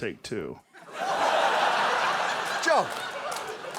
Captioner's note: audience laughs